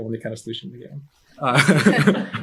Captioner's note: chuckles